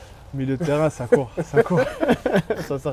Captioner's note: laughs